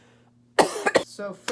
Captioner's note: coughs